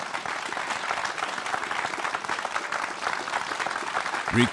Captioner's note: applause